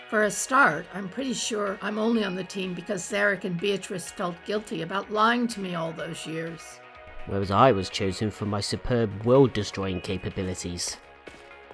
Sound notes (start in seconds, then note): none